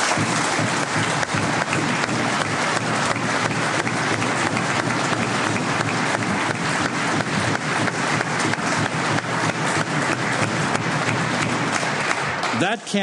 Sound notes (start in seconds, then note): 0.0 applause